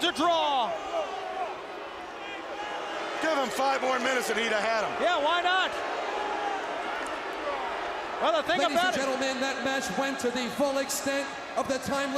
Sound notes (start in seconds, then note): 1.4 crowd chatter; 6.9 crowd chatter